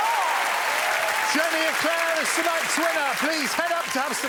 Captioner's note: cheering and applause